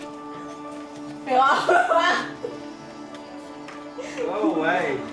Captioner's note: laughs